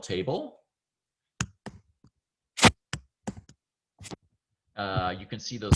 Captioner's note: typing